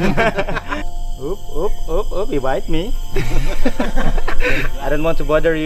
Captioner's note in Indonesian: laugh; laugh